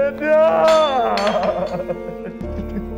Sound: tumbler rolls and falls

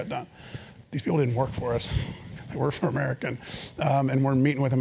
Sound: laugh

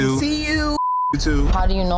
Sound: beep

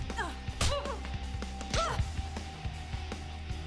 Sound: groaning

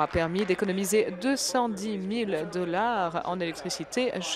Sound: applause

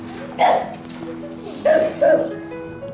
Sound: barks; kissing sounds

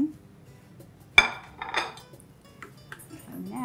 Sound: plate clanging

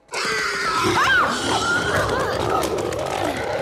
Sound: screams

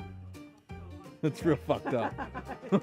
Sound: laughs

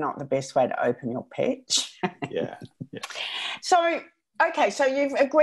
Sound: laughs

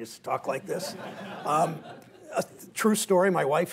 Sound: laughter

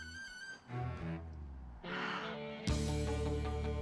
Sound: sighs

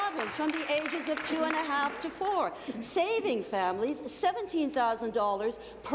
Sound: applause

